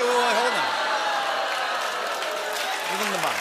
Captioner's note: audience "Ohhs"